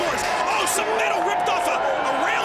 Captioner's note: metal clanging